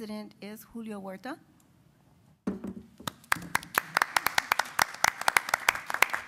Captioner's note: applause